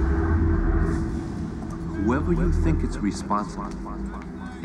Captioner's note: echoes